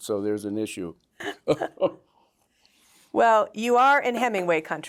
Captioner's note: laughter